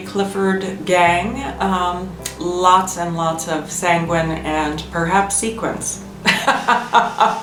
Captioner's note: laughs